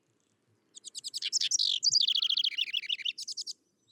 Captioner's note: bird singing